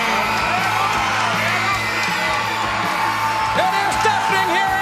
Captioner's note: crowd cheering